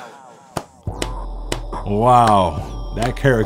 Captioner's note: clapping